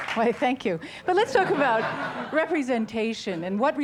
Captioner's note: laughs